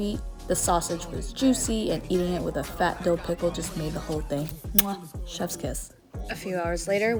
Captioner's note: muah